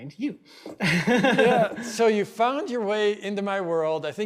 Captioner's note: both laugh